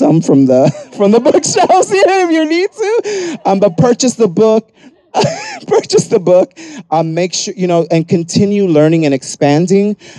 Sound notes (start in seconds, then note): 5.0 laughs